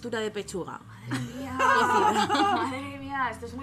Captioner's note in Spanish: risas